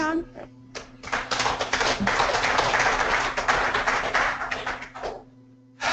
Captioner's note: applause